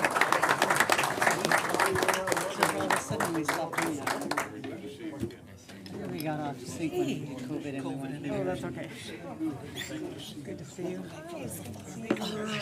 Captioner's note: applause